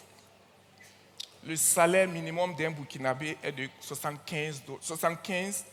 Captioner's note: continues in French